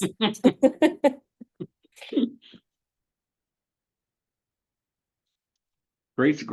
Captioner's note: laughing